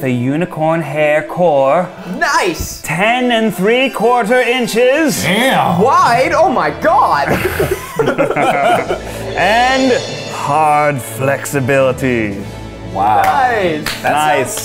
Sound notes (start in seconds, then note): 1.7 gasps; 7.1 laughs